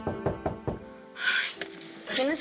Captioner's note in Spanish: Toques en la puerta